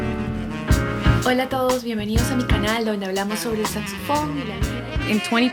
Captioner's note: speaking in Spanish